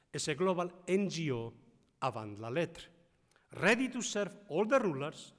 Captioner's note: speaking foreign language